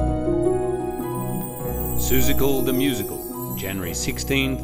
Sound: twinkle sounds

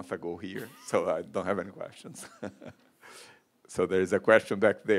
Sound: chuckles

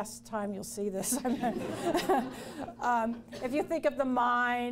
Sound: laughs

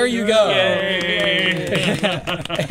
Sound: general applause

